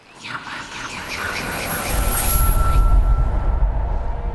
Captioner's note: mysterious whispering; pensive music